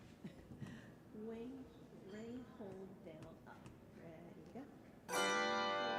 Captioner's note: speaking softly; soft bells chiming